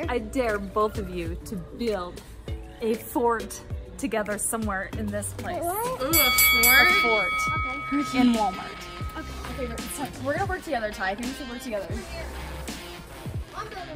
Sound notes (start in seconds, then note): 6.0 bell dinging